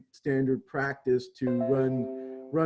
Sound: chime

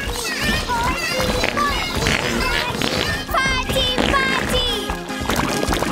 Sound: farting

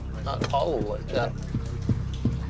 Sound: thudding

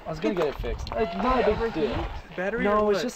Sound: chattering

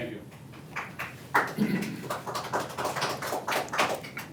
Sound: parents clapping

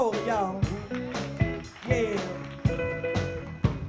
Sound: audience claps

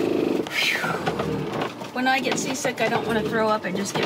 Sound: phew

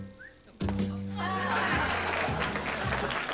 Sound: laughter; applause

